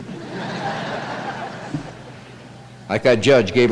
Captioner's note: laughter